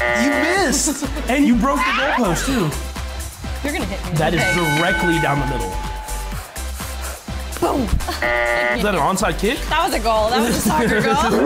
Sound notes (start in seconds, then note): 0.0 buzzer buzzes; 8.2 buzzer buzzes